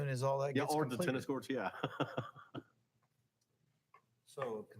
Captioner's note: laughing